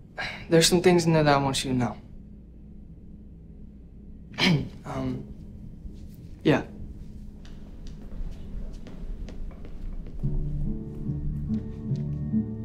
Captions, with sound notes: There's some things in there that I want you to know. (coughs) Um. Yeah. (soft music)